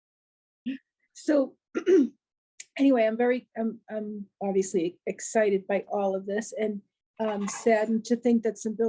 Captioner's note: cough